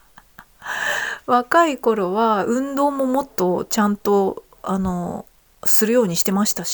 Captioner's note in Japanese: 笑い; 息をのむ音